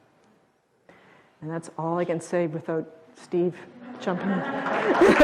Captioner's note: audience applause